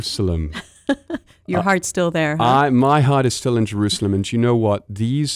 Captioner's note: laughter